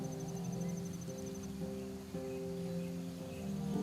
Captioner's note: birds chirping